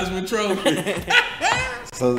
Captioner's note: CJ and older man laughing